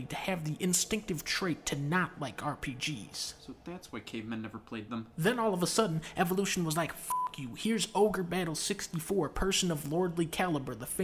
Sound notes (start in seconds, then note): 7.0 beep